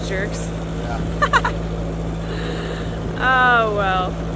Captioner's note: laughs